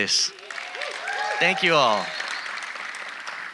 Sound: audience applauding

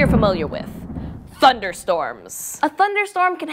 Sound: thunder rumbles

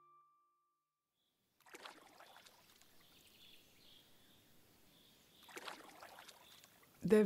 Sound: water lapping and birds chirping

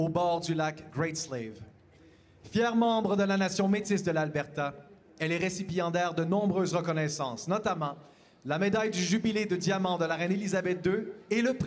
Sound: speaking Indigenous LANGUAGE; speaking French

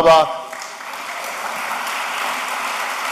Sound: applause

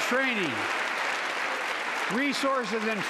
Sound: crowd applauding

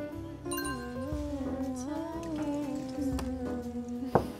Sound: hum

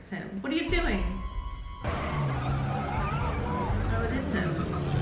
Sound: people screaming

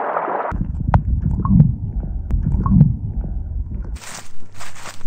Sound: under water sounds

